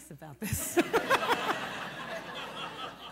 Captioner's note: laughter